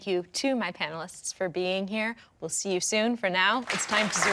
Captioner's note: audience applauding